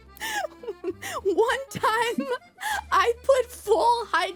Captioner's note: laughing